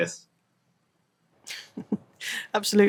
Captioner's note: laughs